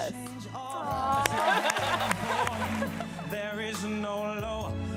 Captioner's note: audience clapping